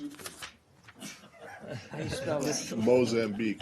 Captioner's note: laughter